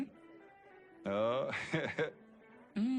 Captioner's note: in-genuine laugh